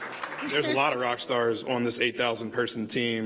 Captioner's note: applause